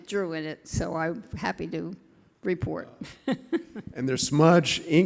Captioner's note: laughing